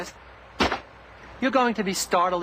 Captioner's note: gunshot